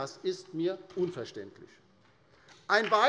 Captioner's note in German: Beifall bei der LINKEN